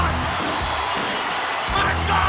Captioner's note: crowd cheering